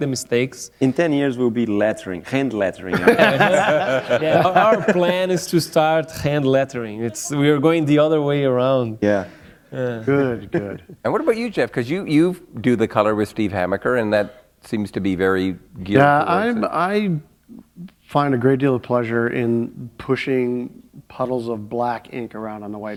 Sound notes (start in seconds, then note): 2.9 laughter